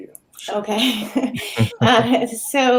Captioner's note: chuckling